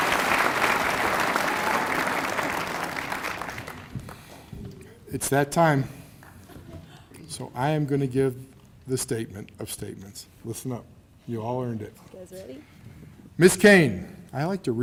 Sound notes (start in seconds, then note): 1.8 applause